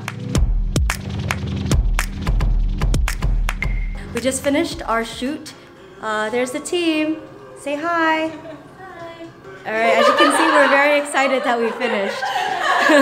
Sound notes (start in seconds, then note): 0.1 upbeat music; 9.7 laughing